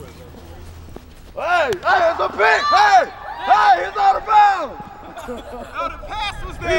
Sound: laughs

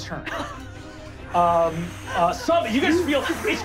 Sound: gasping for air

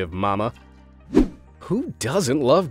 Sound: transitional wipe-screen rushing sound

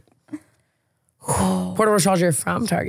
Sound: Tana sighs

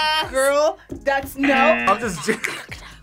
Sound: buzzer

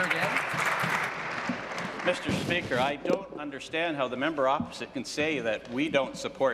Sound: applause

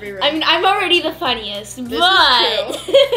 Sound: laughs

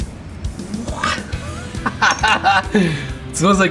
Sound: laughs

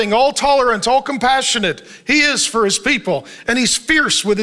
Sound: none

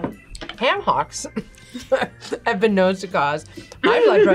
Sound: laughs; both laugh

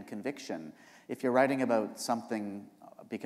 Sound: none

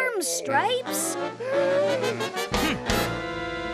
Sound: gasping; grunting

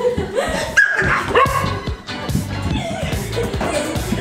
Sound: dog barking

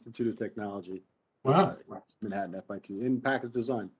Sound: speaking faintly

